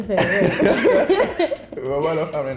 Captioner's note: both chuckling